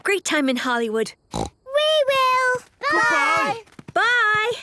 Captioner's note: snort